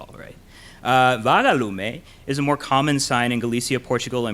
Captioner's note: in foreign language